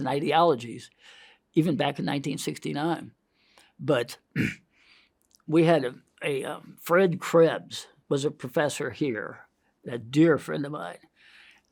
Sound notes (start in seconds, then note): 4.3 clears throat